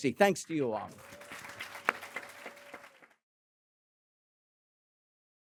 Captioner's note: applause